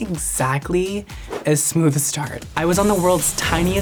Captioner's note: air whooshes